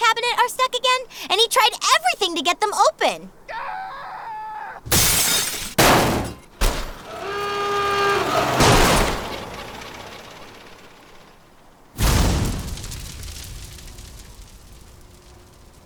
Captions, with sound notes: are stuck again, and he tried everything to get them open. (shouting) (glass shattering) (banging) (horn) (explosion)